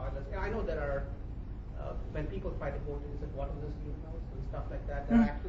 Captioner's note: faintly speaking